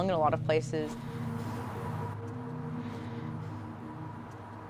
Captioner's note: traffic rumbling